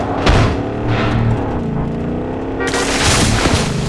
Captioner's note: gunshots